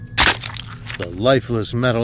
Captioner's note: Screams as the "droid spear arm" crunches through the technician